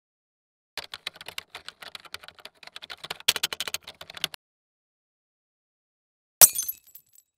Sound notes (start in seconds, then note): 0.8 keyboard typing; 6.4 glass shuttering